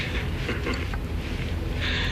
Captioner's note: chuckles